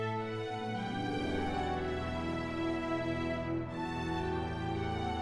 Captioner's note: none